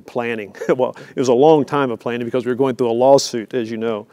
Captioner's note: laugh